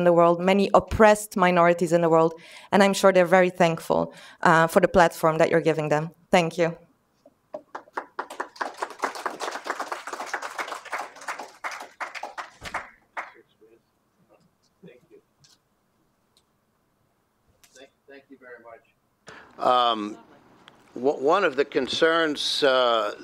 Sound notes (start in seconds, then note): 11.3 applause